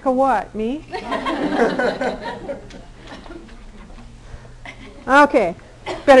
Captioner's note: audience laughing